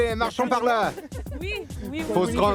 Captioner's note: laughs